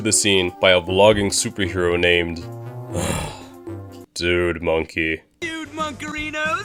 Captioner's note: sigh